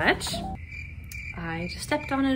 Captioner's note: crickets chirping